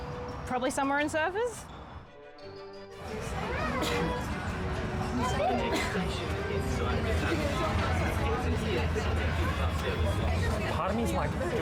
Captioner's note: tram announcement